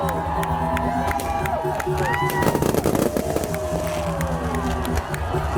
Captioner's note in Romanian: Aplauze